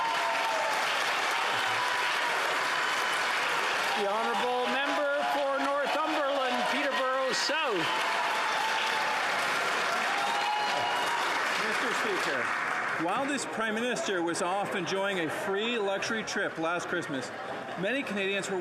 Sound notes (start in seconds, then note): 4.9 some Applause